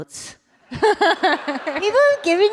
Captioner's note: laughter